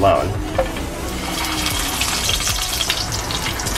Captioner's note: pan sizzles